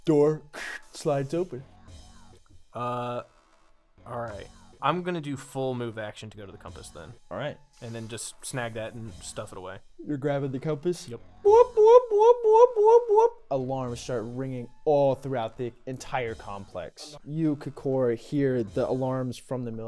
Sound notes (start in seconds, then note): 11.4 whooping